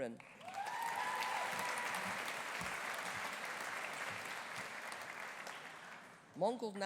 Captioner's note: audience applauding; audience cheering